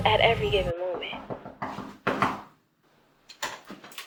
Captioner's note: knocking